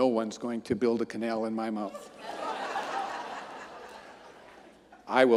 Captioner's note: audience laughing